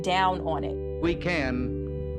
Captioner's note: soundbite of archived recording